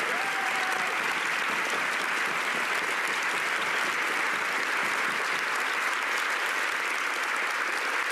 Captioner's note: cheers and applause